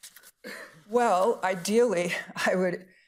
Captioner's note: participant coughing